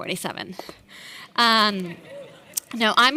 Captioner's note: audience laughing